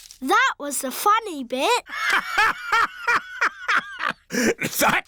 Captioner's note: laughs